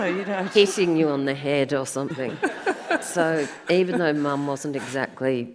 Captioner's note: audience laughs